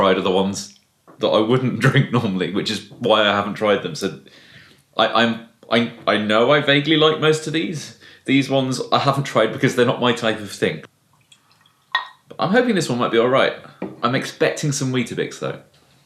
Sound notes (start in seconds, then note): none